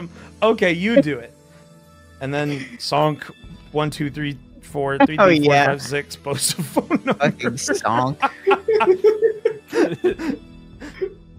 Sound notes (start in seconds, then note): 8.4 laughter